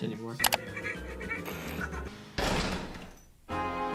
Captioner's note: fast-paced music; keyboard clicking; door opening; somber music